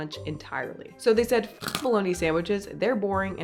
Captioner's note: crunch